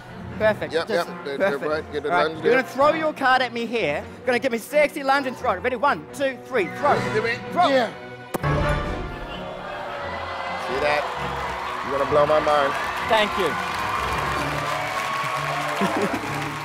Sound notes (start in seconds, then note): 9.1 clamoring; 14.0 cheers and applause